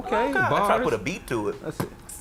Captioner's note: beatboxing